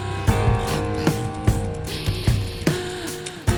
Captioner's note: counter ticking